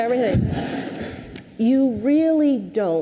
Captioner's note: audience laughs